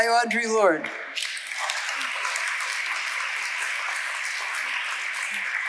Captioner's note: audience applauding